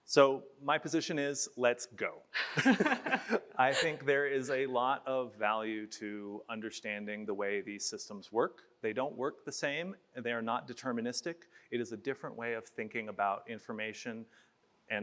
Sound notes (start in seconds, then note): 2.3 both laugh